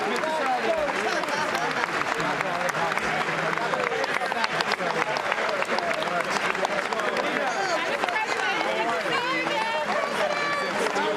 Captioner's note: applause